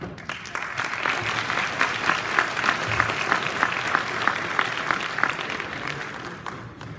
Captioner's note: applause